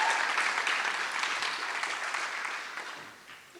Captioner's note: applause